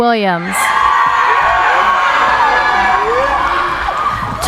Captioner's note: cheering